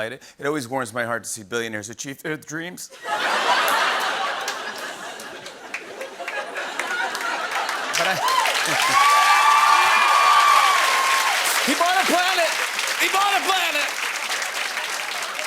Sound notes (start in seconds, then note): 2.9 laughter; 7.5 cheers and applause